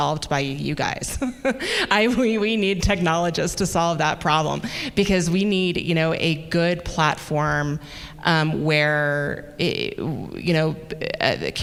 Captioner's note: chuckle